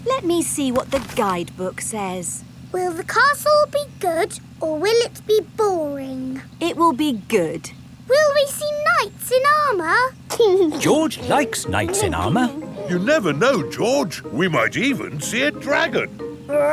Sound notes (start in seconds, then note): 10.8 giggling